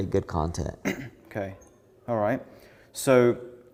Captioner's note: clears throat